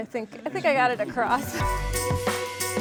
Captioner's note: upbeat music; laughs